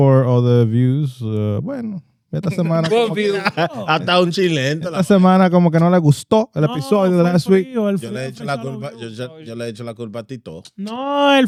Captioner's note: speaking Spanish